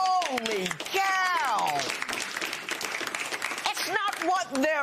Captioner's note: applause